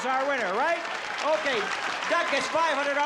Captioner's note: applause